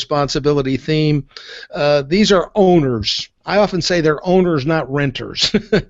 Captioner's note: chuckles